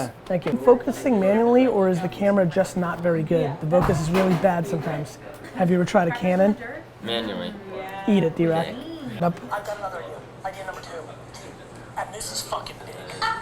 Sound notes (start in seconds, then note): 9.1 Gary on Phone